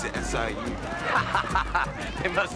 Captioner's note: laughing